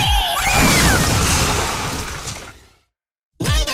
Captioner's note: screams; crash noises